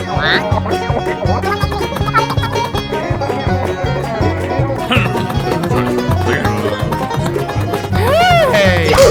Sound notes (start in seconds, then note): 4.8 mumbling and grumbling; 8.8 jarring crunch!!!